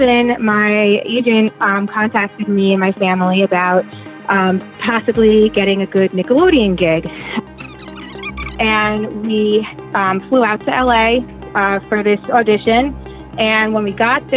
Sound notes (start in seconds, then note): 7.6 high-pitched, indistinct chatter